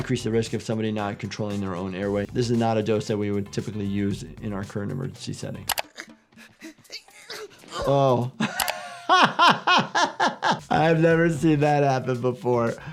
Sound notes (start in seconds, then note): 6.4 doctor laughs; 6.6 Hal groans